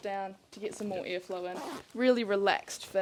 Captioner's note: zip swishes